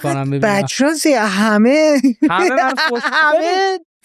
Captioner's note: laughs